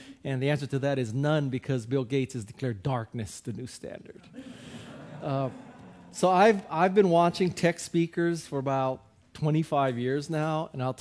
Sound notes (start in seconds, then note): 4.4 audience laughing